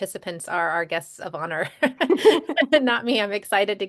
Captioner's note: laughter